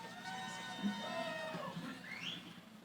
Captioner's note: cheering